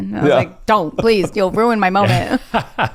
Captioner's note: laughs